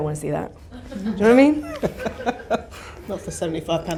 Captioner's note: laughs